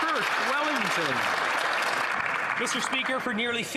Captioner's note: some Applause